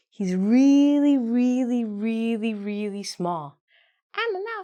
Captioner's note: none